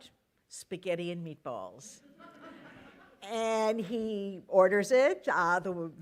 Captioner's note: laughter